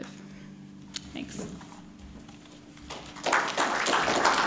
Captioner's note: applauding